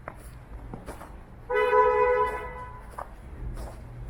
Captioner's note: car horn a-bloody-gain